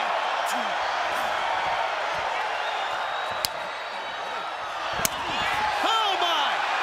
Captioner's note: crowd cheering